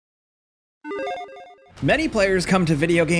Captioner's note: tone chiming